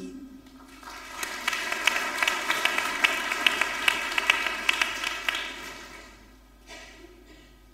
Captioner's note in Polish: oklaski